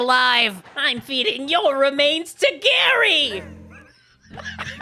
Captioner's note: Spongebob voice